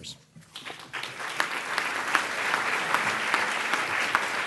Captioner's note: applause